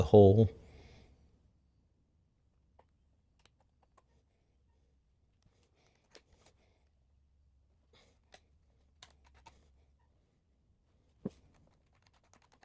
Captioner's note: silence